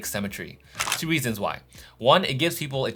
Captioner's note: camera shuttering